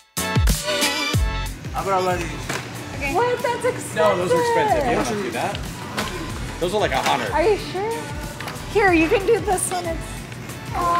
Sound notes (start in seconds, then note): 2.0 everybody chattering